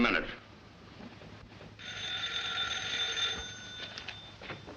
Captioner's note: telephone ringing